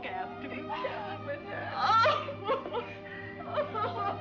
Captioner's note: crying